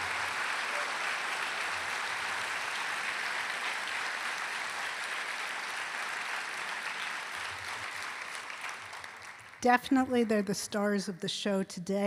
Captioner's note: applause